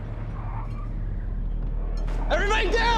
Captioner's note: tires screeching